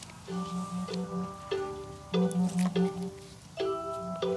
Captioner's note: phone rings